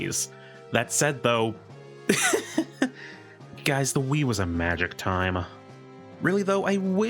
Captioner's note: laugh